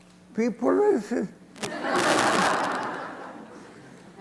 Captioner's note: laughter